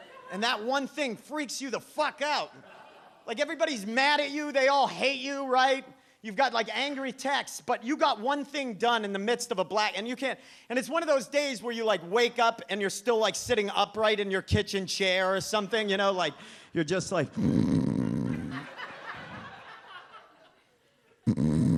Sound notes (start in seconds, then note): 17.4 snores; 18.1 audience laughs